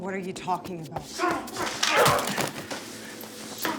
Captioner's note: grunting